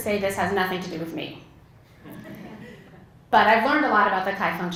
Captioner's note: laugh